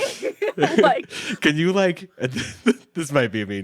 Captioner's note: laughs